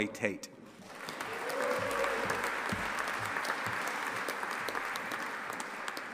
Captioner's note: audience applauding and cheering